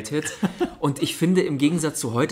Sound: laughs

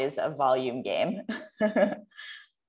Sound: chuckle

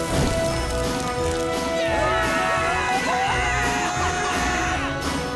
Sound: cheering

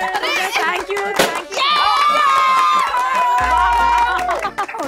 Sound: everyone clapping and cheering

